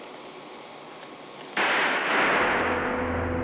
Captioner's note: exploding